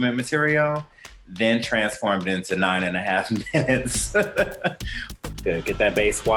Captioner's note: laughter